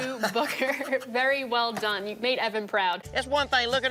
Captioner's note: chuckles